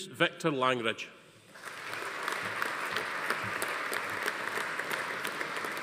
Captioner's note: audience applauding